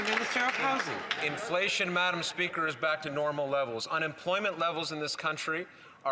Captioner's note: some Applause